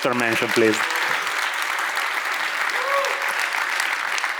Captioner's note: audience applauds